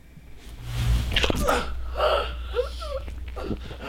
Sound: spray and gasping

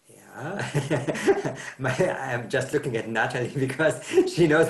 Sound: laughs

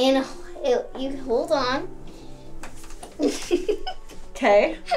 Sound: giggles

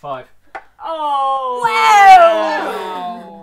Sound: cries of disbelief

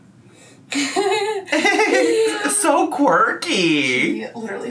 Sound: both laughing

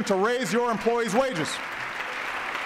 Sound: applause

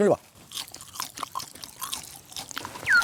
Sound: Crunch

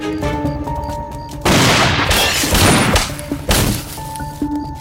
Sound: gunshot

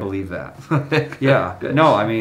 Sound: chuckling

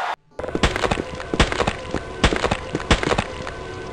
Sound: GUTS SQUISHING x4

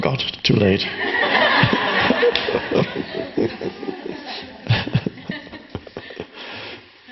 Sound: audience and Eckhart laughing in unison

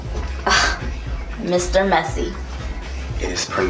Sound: scoff

